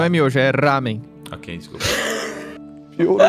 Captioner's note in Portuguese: Risada